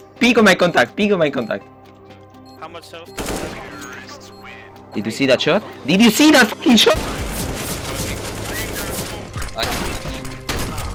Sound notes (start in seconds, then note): 3.2 gun fires; 6.9 gun fires; 7.4 background chatter